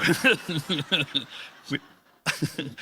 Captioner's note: laughs